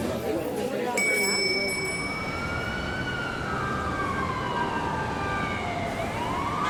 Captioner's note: bell ringing; siren blaring